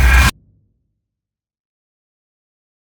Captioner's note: sound blanks out